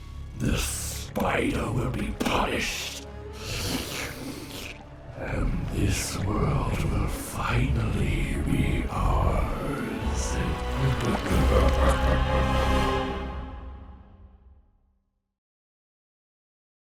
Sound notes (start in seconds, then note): 3.3 slurping; 10.1 evil laughing